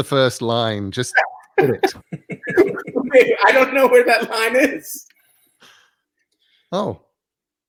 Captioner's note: laugh